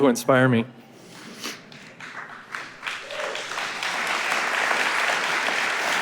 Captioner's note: audience applauding